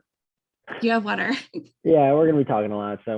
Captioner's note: laughs